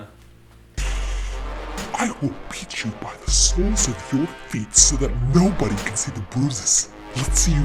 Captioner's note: scary demon voice! D